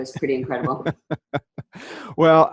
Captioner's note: laughs